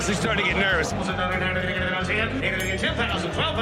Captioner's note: calling continues